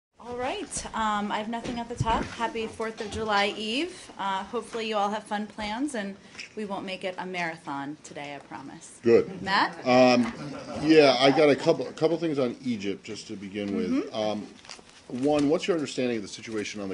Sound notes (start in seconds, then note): 10.2 laughter